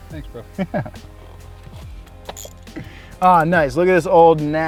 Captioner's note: laughs